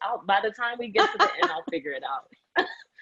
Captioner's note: laughs